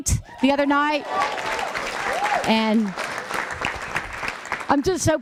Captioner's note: applause